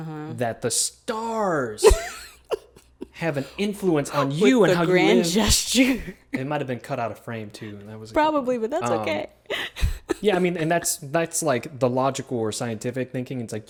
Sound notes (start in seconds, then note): 6.0 laughs; 9.6 laughs